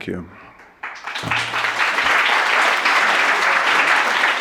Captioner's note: clapping